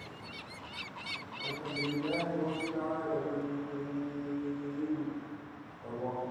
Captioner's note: muezzin praying in foreign language